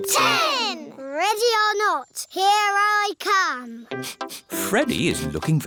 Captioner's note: sniffs